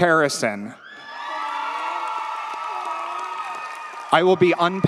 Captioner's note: audience cheers; audience applauds